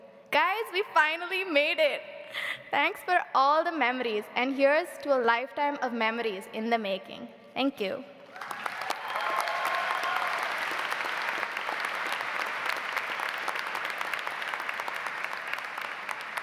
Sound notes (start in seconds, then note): 8.3 audience applauds